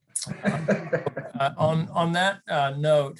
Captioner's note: laughs